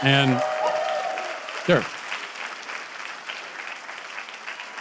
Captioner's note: audience applause